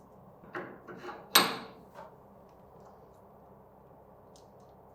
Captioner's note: metal clinking